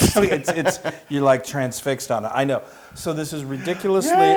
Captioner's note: laugh